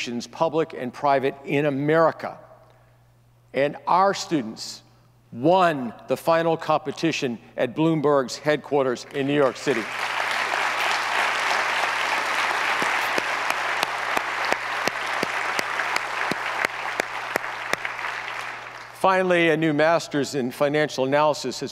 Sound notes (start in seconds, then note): 9.8 audience applauds